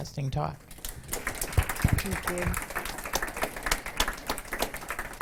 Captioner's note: audience applause